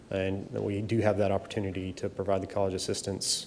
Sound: none

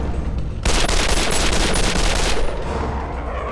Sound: guns firing

